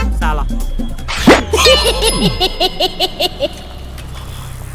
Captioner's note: Cycle laughs